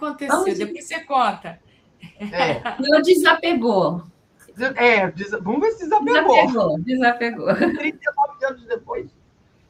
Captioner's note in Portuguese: risadas